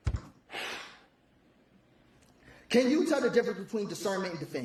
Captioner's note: exhales